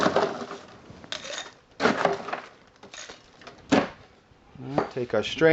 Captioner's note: scoop digging into ice; ice clinking into glass